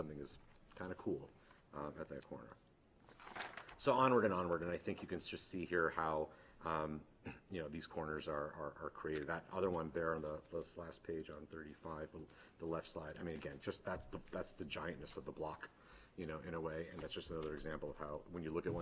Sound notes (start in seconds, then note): 7.2 clears throat